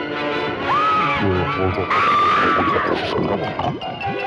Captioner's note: screaming